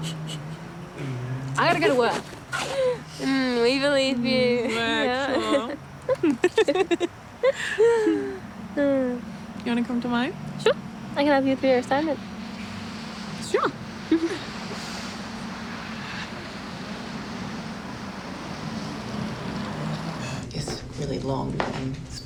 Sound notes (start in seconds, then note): 2.5 chuckling; 6.8 laughing